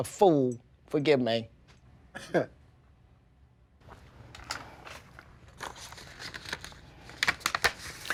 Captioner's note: chuckles